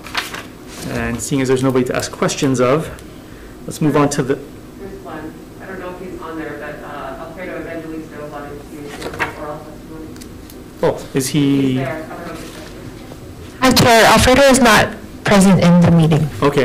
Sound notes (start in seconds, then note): 9.9 murmurs